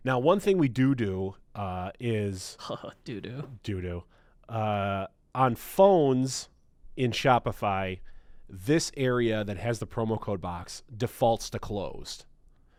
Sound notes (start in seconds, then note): 2.9 laughs